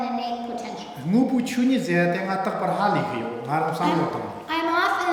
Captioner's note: speaking tibetan